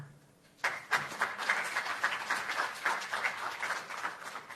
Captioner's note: applause